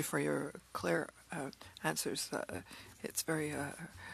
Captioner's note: speaking French